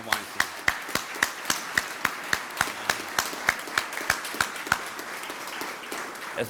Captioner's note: applause